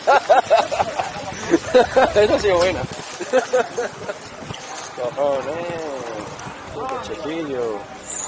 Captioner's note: laughs